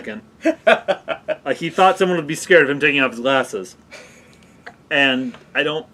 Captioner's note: laugh